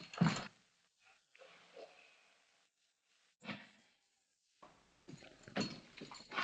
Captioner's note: shouting for the sheriff